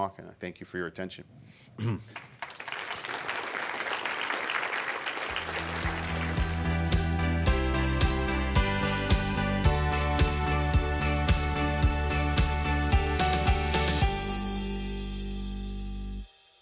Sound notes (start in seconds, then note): 2.0 audience clapping; 6.4 upbeat music